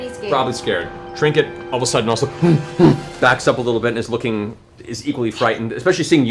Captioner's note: scared bear noises